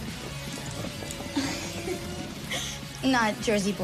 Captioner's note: laughs